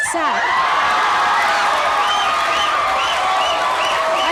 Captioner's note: audience cheers